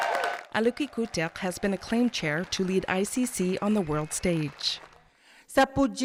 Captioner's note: applause